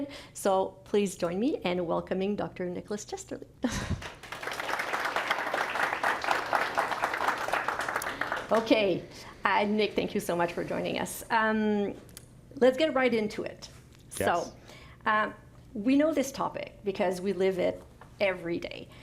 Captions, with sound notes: So, please join me in welcoming Dr. Nicholas Chesterley. (Applause) Okay, Nick, thank you so much for joining us. Let's get right into it. So, we know this topic because we live it every day